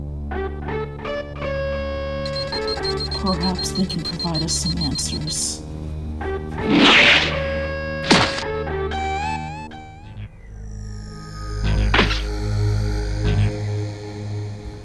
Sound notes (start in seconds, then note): 0.0 ominous music playing; 2.2 beeping; 6.7 whoosh, then landing; 12.8 ominous music playing